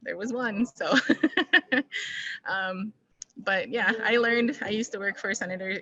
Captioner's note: laughter